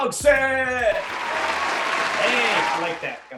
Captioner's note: applauding